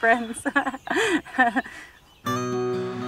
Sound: laughs

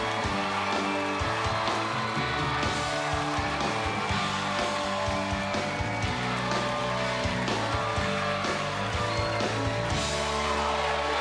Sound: cheers and applause

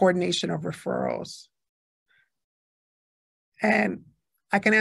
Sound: A pause

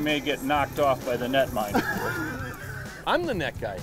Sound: laughs

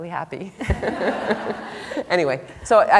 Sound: laughter

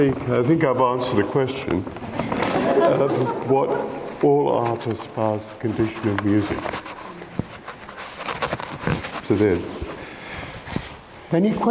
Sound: laughter

